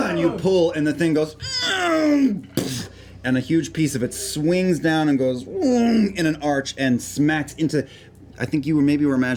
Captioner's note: effort sounds; shrieking metal